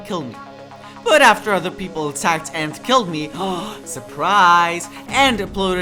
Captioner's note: gasp